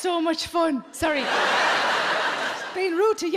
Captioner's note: audience laughing